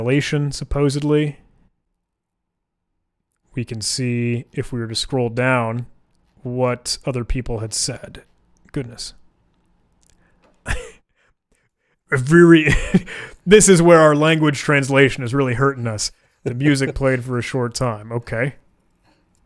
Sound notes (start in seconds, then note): 10.6 chuckling